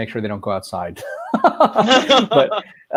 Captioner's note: laughing